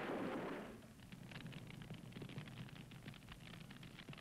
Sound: fire crackling

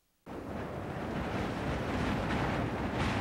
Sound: wind whistling

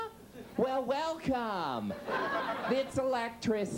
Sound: audience laughs

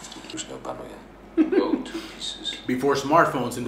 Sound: foreign language; laugh

